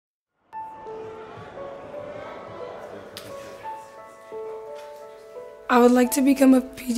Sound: soft tranquil music; students chattering

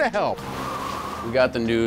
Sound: wind blows

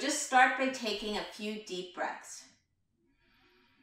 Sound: breaths deeply

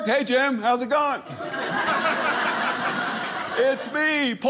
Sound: audience laughing

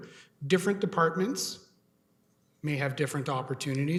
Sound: audio drop

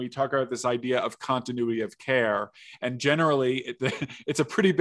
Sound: chuckles

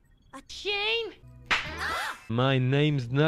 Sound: gunshot

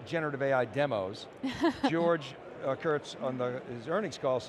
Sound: chuckling

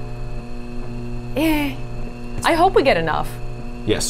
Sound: machine whirring

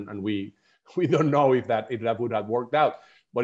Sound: laughter

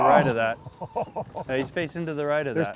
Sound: laughing

